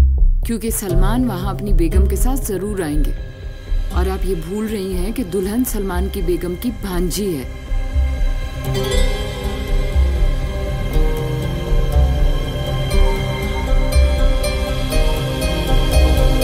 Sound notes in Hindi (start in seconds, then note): none